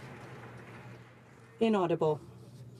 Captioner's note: some Applause